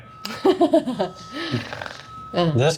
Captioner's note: laughing